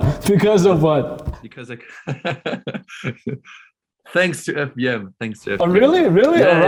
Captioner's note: laughs